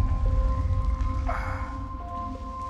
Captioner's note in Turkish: Öksürme sesi; Nefes sesi